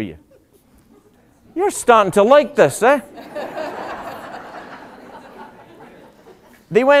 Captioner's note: laughter